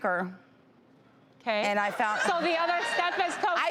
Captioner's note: audience laughs